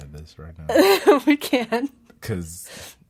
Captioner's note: laughs